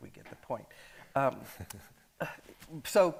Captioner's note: chuckles